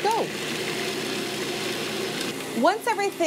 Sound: mixer whirring

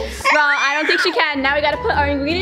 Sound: baby squeals

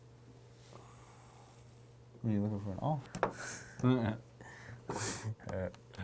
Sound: laughing

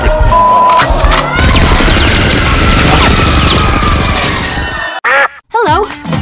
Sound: gun cocking and gunfire; audience screams

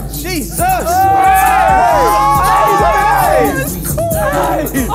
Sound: judges cheering

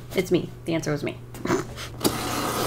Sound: snorts

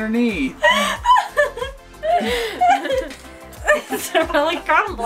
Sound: laughter

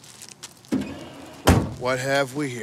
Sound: trunk thudding

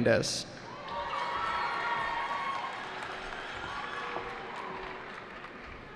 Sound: cheering

